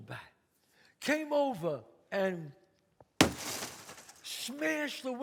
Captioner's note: thuds